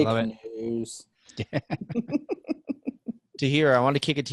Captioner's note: chuckling